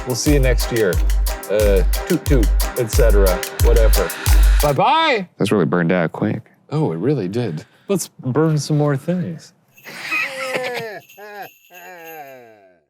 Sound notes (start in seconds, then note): 9.7 bells jingling; 9.9 laughing